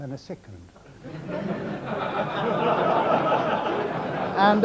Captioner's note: audience laughing